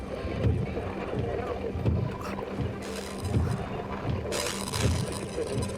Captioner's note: static crackling